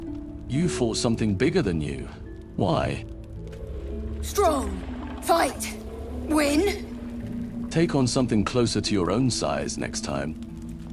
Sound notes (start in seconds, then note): none